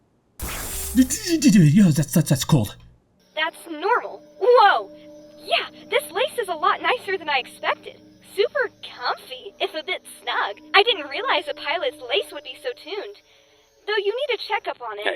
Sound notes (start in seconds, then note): 0.4 zap; 1.5 shudders